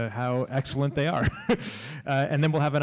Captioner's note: laughs